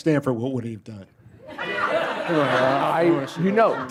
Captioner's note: laughter